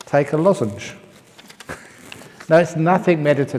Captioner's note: laughs